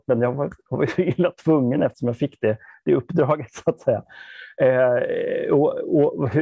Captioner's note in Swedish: skrattar